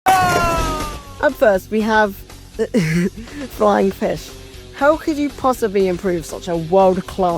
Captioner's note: uncontrollable tiny giggle